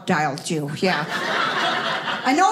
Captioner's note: audience laughing